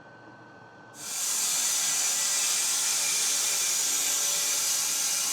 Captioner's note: saw whirring